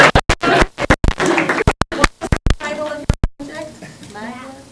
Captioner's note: crowd talking indistinctly; crowd talking indistinctly